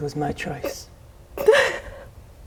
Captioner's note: sobs